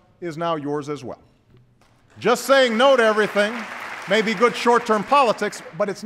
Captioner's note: applause